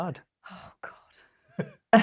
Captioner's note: laughs